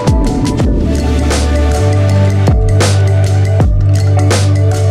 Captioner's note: air whooshing